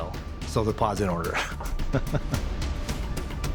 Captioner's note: chuckling